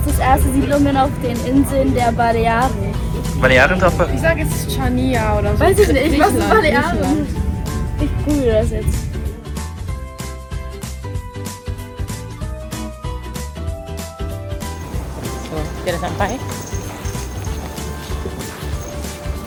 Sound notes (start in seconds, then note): 5.6 speaking German; 10.0 background music